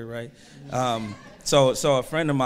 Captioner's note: audience murmurs